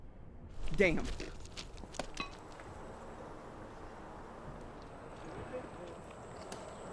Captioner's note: footsteps crunching